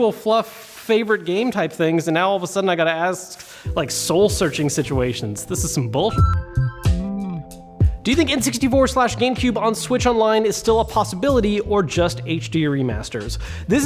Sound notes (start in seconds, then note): 6.1 beep; 6.5 lofi music